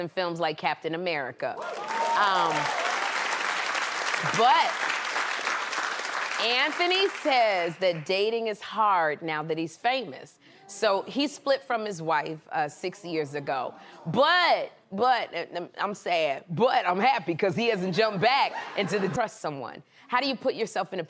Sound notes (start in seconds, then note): 8.3 applause